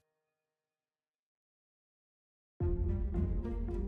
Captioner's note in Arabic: لا صوت